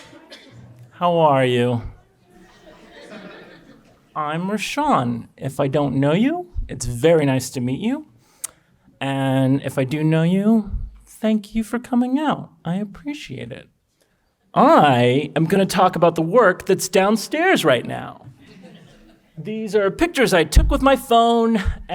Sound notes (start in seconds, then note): 1.7 audience chatter